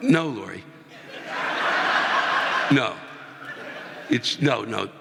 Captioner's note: audience laughing